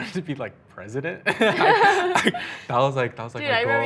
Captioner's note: laughing